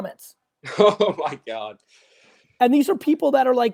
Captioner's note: laughs